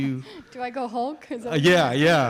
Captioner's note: laughing